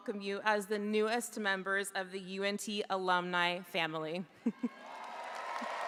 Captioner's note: chuckles; audience applauding; audience cheering